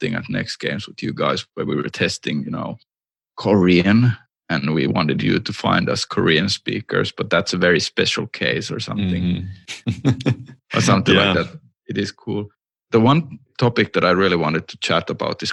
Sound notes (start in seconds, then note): 9.7 laughter